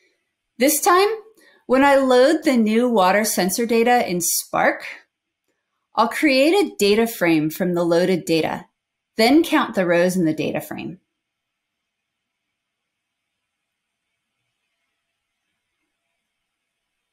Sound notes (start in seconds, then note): none